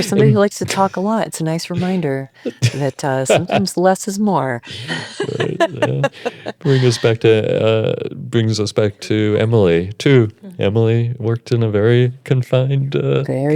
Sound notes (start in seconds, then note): 4.6 laughs